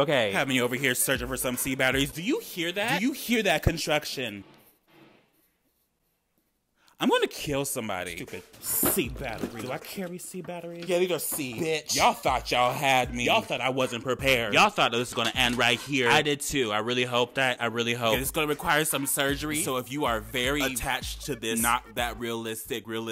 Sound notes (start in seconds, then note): 4.5 distant drilling